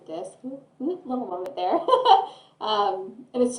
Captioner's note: laughter